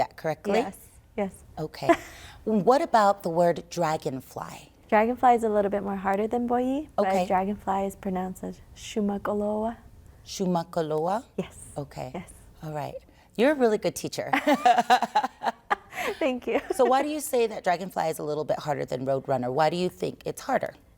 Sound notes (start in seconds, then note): 14.3 laughter